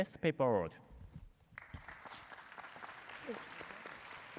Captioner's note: applause